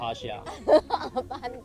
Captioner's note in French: Rires